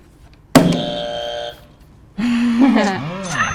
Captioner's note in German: yeah sound effekt; katsching; buzzer